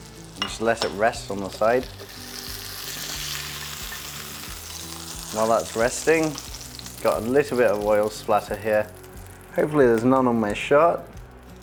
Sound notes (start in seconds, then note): 2.2 sizzling sound